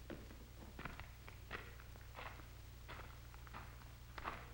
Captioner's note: footsteps approach